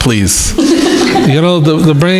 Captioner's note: crowd laughing